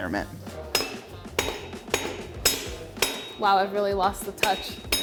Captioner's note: clanging